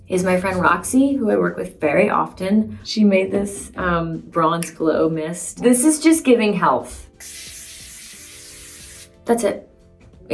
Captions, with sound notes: is my friend Roxy, who I work with very often, she made this Bronze Glow Mist. This is just giving health. [can hisses] That's it.